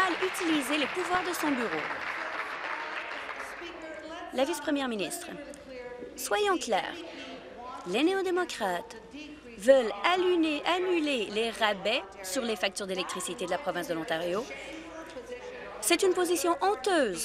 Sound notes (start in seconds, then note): 2.1 applause